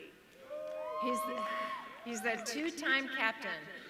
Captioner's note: audience cheering